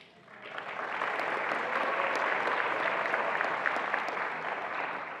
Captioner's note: attendees applauding